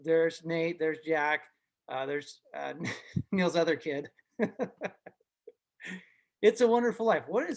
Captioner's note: laughs